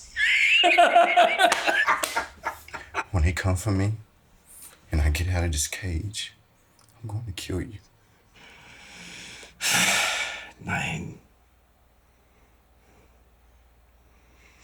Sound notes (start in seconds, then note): 0.0 Siegmund laughing; 9.6 Siegmund sighing; 10.8 Siegmund speaking German